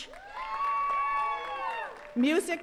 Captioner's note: attendees cheering and clapping